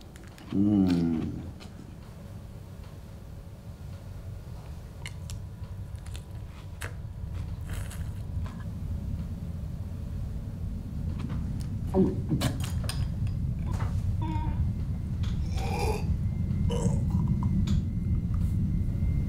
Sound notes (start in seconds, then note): 0.4 moaning; 12.5 coughs; 15.4 groaning